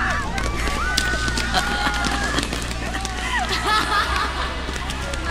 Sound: laughs

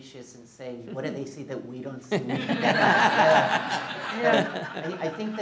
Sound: laughing

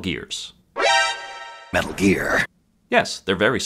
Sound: alert noise

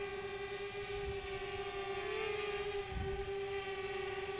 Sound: drone humming

